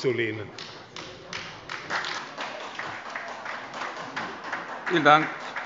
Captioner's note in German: Beifall bei der SPD